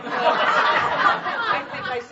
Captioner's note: laughter